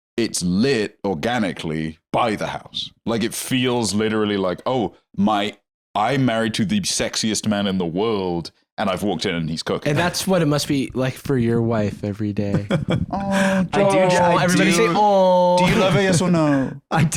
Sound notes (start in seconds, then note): 12.6 laughs